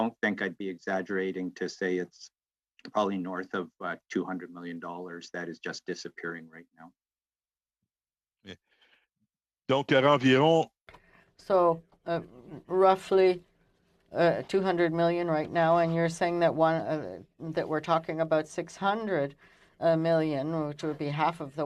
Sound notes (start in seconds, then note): 13.2 speaking in French